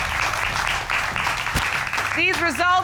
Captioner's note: audience applauds